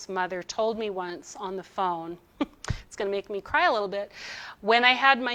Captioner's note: giggles